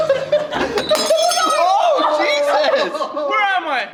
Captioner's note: glass breaks